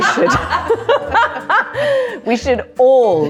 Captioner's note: everyone laughing